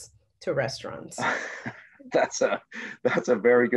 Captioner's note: laughs